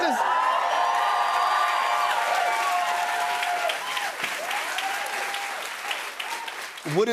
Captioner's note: cheers and applause